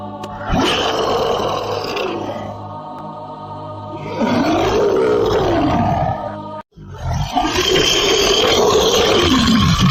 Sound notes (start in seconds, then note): 0.4 monster Roar; 6.8 loud Roar